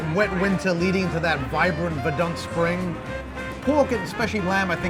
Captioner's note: foreign language